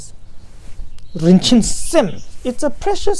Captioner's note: tibetan